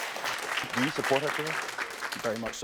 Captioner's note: audience applauding